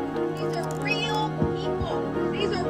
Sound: voice of a woman speaking to a crowd

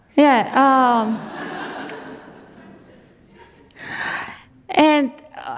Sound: audience laughs

